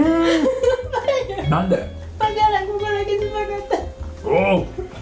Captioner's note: laughs